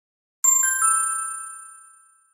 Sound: ding!

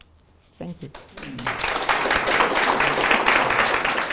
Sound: applause

